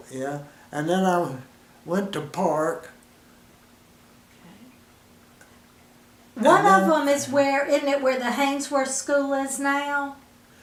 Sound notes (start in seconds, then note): 3.2 silence